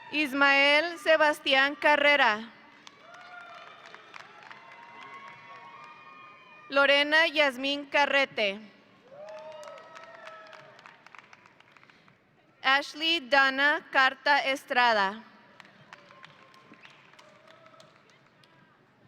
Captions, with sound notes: Ismael Sebastian Carrera. (audience applauding) Lorena Yasmin Carrete. (audience applauding) Ashly Danna Carta Estrada. (audience applauding)